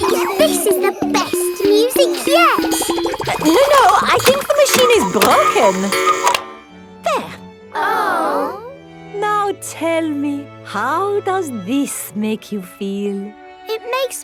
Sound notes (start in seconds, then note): 0.0 giggles; 6.4 cuckoo clock; 9.4 chamber music playing